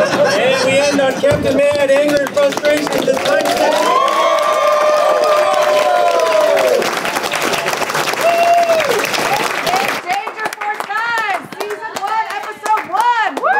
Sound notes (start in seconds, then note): 2.6 cheering; 12.9 cheering